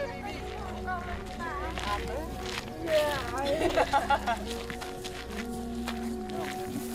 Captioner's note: visitors chatting; birds chirping